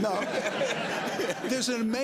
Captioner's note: laughter